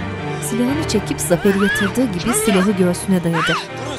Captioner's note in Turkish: Bağırma sesi